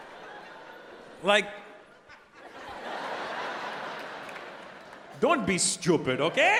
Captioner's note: audience laughing